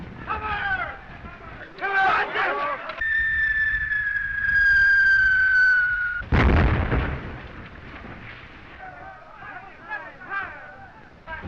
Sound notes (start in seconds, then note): 0.2 all exclaim; 3.0 bomb whistling